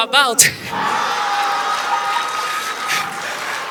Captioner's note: audience applause